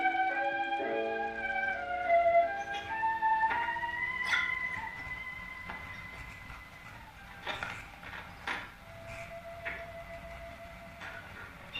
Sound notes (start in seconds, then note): 2.2 static crackling; 8.8 metal clanking